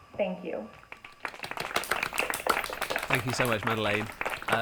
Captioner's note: applause